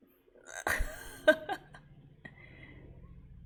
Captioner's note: laughs